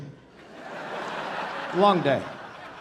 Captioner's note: audience laughing